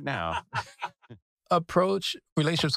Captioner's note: laugh